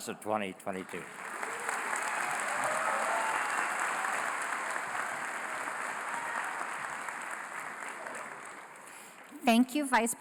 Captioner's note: applause